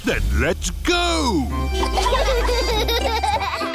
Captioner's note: giggling